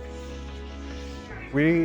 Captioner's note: mimics whooshing sound